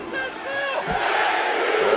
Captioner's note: crowd yells "u"